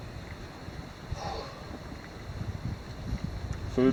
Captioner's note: sighs